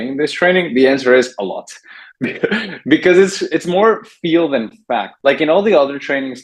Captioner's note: laughs